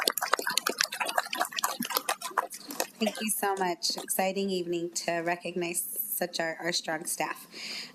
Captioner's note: applause